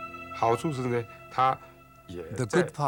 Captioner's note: non-english speech